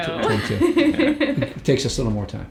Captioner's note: laughing